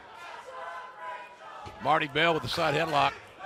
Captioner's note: fans chanting